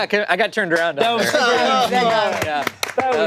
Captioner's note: group applauding